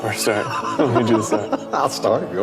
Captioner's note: laughing